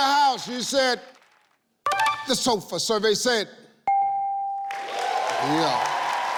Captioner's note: ding; audience clapping